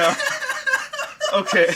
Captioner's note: laughing